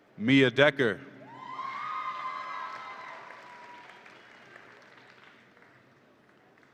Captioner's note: audience applauds and cheers